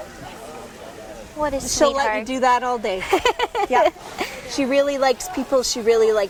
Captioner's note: laughs